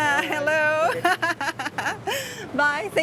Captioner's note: laughs